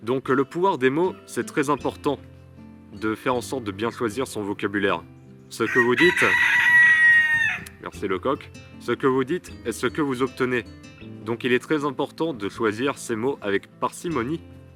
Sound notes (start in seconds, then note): 5.6 rooster Cries